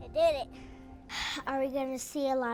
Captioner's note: girl sighs